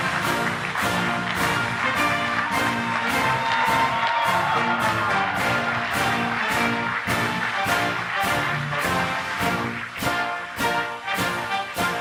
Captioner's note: applause